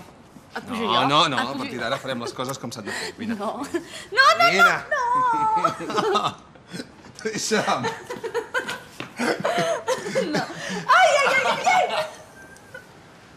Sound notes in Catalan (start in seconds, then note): 9.1 rient; 12.4 riallada